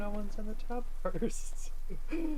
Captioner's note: giggles